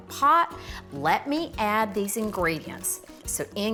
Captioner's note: beans splattering